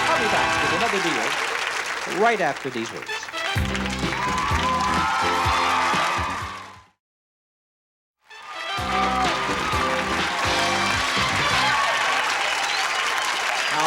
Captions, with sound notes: I'll be back with another deal right after these words. (lively pop music) (applause) (lively pop music) (applause)